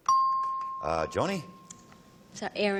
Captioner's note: ping